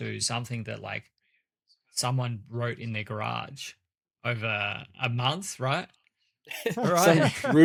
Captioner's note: laughs